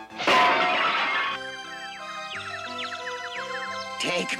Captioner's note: birdies twitter